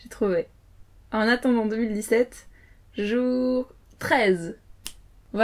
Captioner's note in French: claquement de doigts